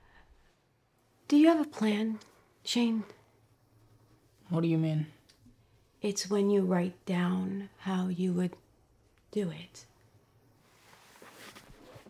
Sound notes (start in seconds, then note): none